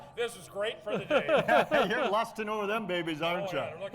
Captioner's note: laughing